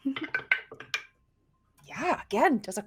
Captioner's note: dice rolling